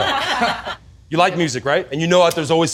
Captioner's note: laughter